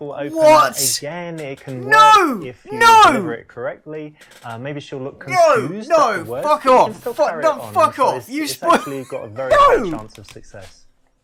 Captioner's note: rages